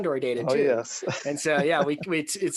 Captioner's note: laughs